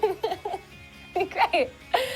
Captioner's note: laughs